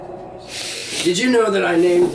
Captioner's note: big sniff